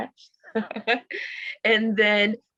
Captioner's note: laughs